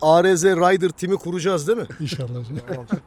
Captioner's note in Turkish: kahkaha